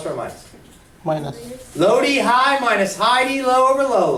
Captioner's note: voiceover